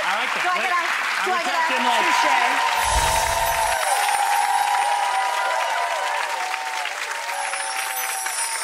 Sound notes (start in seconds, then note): 2.8 light twinkling sound